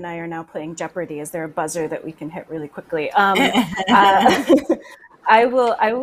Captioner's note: laughs